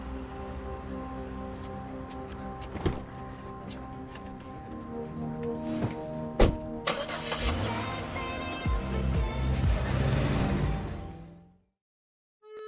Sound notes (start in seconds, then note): 0.2 sound of getting into car, ambient tense music; 6.3 car engine starts, and a bubble- gum pop song starts playing